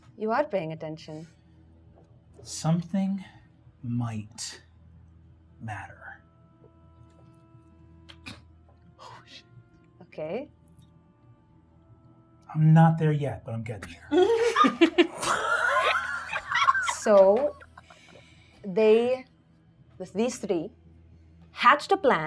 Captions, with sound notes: - You are paying attention. - Something might matter. - Okay-- - I'm not there yet, but I'm getting there. (gamers laughing) - So they, with these three hatched a plan